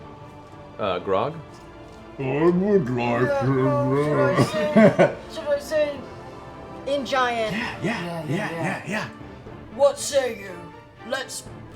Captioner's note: in Grog voice